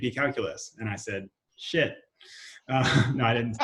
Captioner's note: laughs